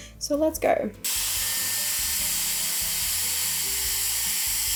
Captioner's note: hair dryer blows